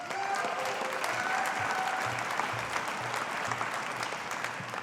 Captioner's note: audience applauding